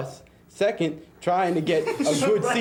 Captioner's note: students chuckling